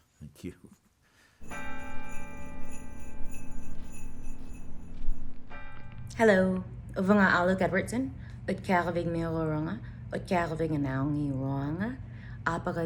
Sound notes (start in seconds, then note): 1.4 bell chimes; 7.5 speaks in Iñupiaq